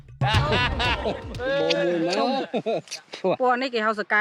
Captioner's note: laughter